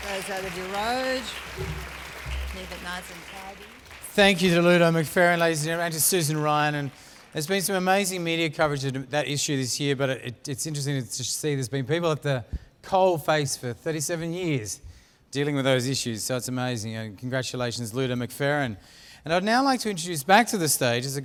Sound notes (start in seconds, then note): 5.0 applause